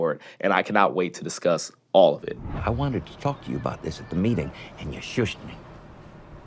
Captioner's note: none